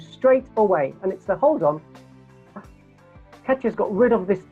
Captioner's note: gasps